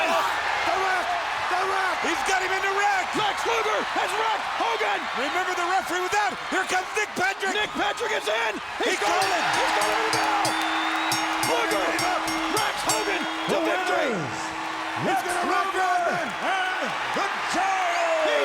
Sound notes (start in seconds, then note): 0.3 audience cheering; 5.1 audience cheering; 9.0 bell ringing; 18.2 audience cheering